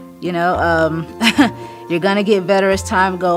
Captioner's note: laughs